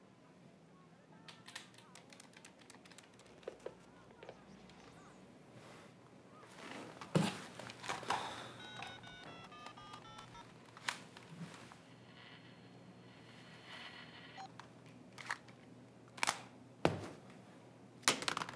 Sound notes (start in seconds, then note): 3.8 phone dialing; 8.6 static crackling